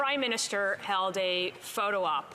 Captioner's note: speaking French